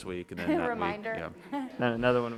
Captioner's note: overlapping chatter